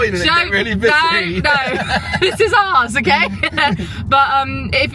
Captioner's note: chuckles